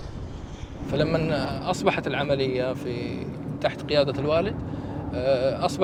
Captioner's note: helicopter blades whirring; speaking in Arabic